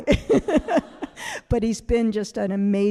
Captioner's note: all laughing